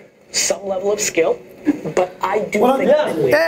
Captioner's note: background chatter